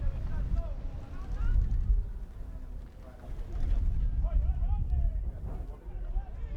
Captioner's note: players yelling in foreign language